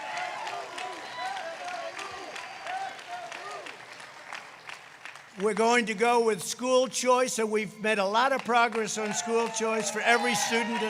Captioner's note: applause